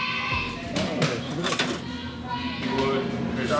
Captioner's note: screaming